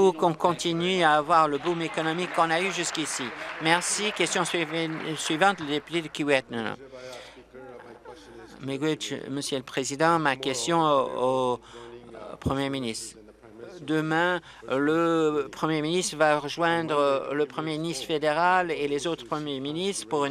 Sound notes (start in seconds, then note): 5.8 applause; 12.4 remarks in Oji-Cree